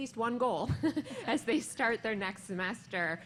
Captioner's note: laughter